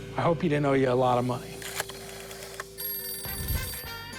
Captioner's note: rotary dial clicking; phone rings